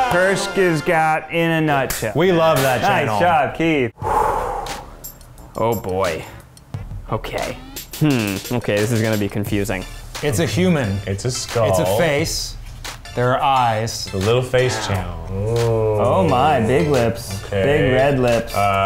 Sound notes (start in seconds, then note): 4.0 exhales